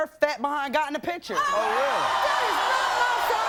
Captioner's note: audience groans